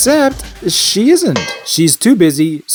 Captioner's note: bonk!